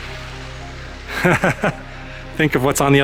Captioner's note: laughter